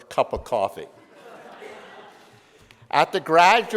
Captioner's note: audience laughs